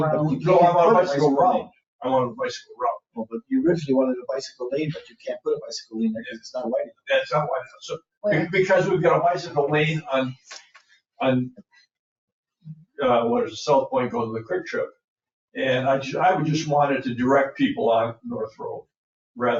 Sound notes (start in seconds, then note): 0.0 people chattering; 8.2 people chattering